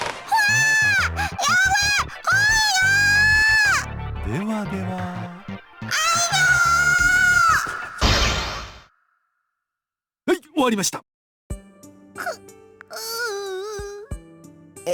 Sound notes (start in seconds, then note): 0.3 panicked cry; 7.0 agony; 13.1 pained groan